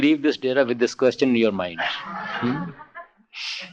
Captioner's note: laughter; more laughter